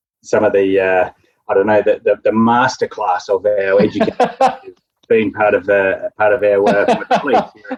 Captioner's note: laughing